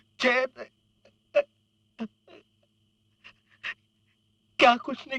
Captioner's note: crying